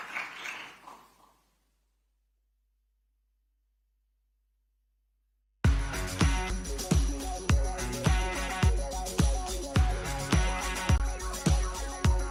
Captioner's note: applause